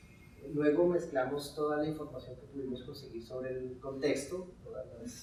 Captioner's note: speaking in Spanish